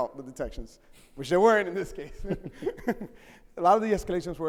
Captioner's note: chuckles